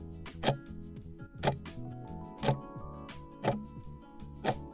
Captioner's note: timer ticking